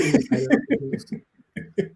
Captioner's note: laughing